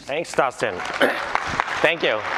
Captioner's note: applause